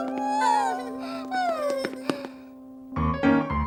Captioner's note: triplets sighing; jaunty piano music